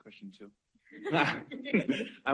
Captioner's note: laughter